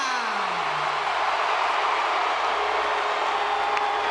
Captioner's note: audience cheering